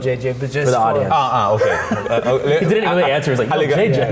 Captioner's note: laughs